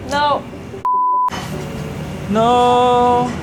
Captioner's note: video beeping